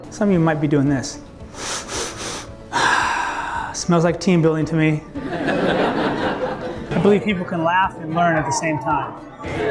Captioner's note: sniffs; laughter